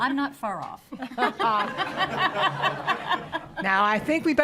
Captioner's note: audience laughs